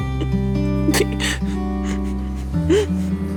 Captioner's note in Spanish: Sollozos